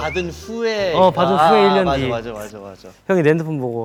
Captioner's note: finally laughs